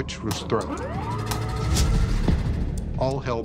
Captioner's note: whirring